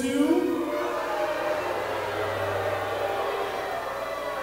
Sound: audience booing

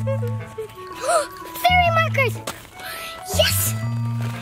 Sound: gasps

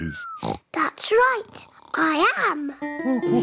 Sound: oinks; all laugh

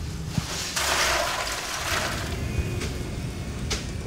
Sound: water splashing

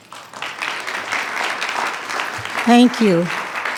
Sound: attendees clapping

